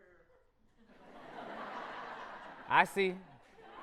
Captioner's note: audience laughter